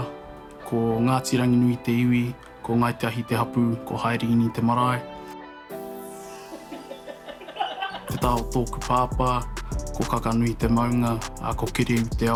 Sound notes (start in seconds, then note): 6.4 all laughing